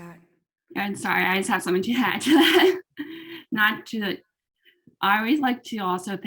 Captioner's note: laughs